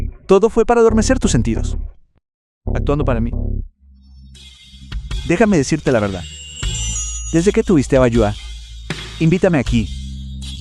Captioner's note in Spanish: campana